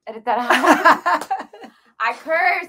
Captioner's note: laughs